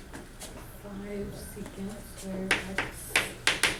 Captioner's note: voiceover